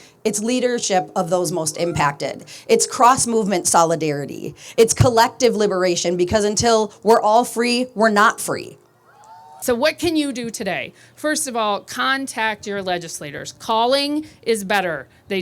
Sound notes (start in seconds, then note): 9.1 audience cheering